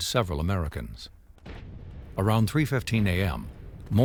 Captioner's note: loud explosion